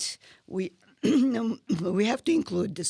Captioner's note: clears throat